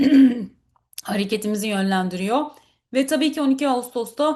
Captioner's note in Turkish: boğazını temizler